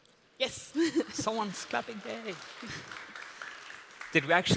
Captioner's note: applause